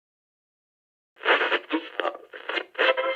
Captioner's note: radio static